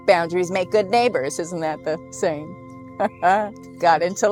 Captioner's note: chuckles